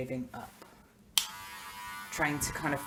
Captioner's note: click